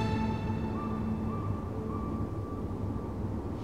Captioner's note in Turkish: Baykuş sesi